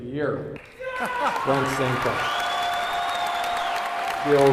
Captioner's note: applause and cheers